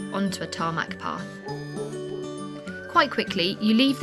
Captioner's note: dog bark